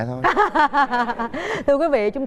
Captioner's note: laughing